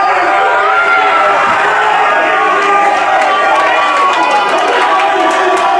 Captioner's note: massive cheering and yelling